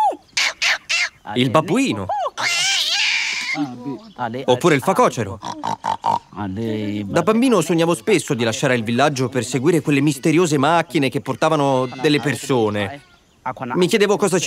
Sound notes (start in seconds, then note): 2.3 baboon sound; 5.3 warthog sound